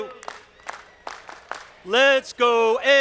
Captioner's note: audience clapping